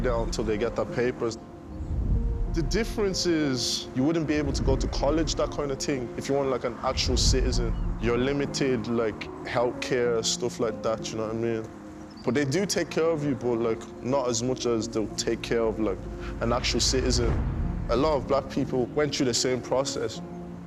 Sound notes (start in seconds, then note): none